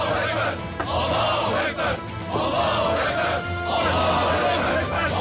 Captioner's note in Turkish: Hep bir ağızdan